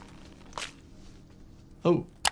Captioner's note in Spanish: el cuello hace ruido